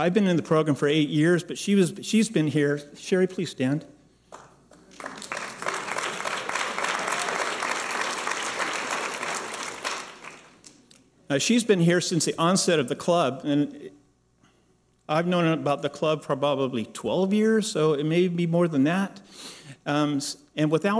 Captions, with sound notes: I've been in the program for eight years, but she's been here. Cherie, please stand. (applause) She's been here since the onset of the club. I've known about the club for probably 12 years, so it may be more than that.